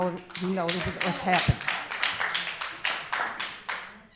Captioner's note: applause